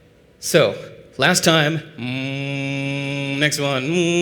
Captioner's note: hum